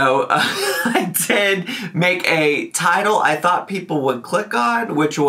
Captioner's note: laughs